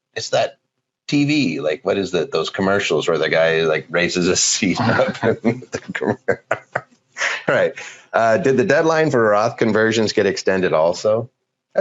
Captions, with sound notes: It's that T.V. Like what is those commercials where the guy like raises his seat? (both laughing) "Did the deadline for Roth conversations "get extended also?"